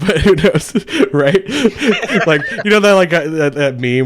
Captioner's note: laughs